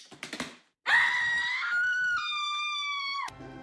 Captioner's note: horror movie scream